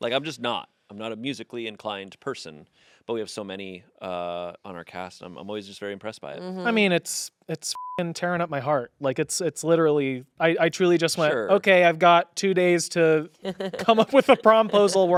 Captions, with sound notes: Like I'm just not, I'm not a musically inclined person, but we have so many on our cast. I'm always just very impressed by it. - I mean, it's, it's (beep) tearing up my heart. Like it's, it's literally, I truly just went, okay, I've got two days to come up with a promposal,